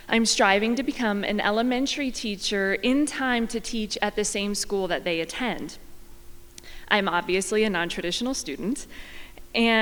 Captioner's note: none